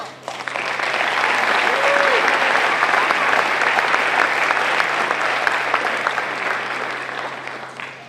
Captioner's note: applause